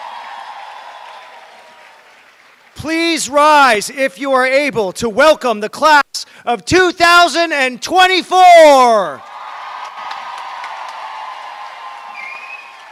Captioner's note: cheering and applause